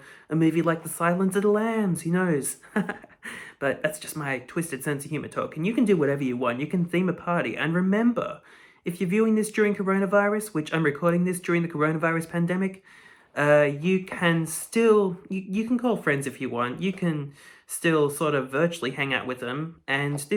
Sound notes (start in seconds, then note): 2.5 chuckles